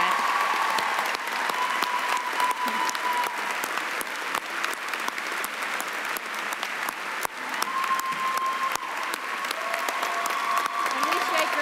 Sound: applause and cheering

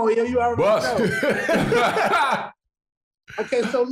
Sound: brothers laughing

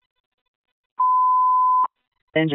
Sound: annoying Beep

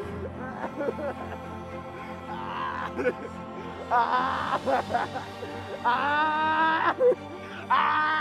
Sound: crying

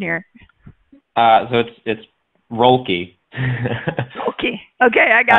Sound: laughs

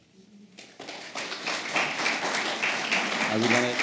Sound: applause

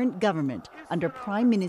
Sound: speaking Foreign Language

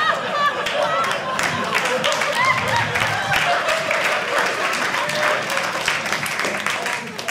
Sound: audience laughing; audience cheering

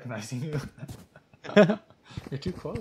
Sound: chuckle

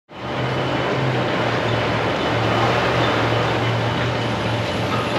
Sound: construction noise

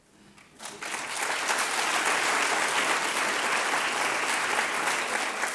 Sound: audience applauding

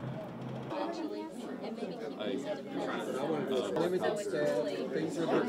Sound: crowd

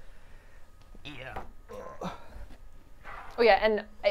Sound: grunts

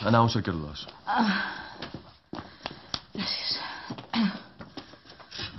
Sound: sighs

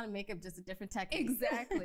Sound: laughs

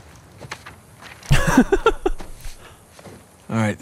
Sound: laughs

